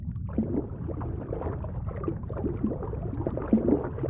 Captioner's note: water sloshes